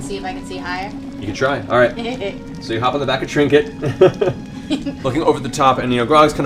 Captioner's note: laughs